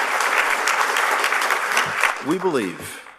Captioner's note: applause